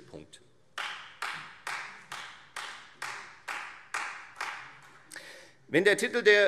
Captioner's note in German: Beifall Freie Demokraten und vereinzelt SPD